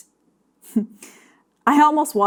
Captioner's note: chuckling